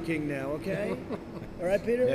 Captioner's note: laughter